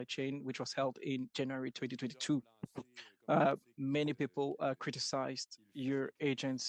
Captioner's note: speaking French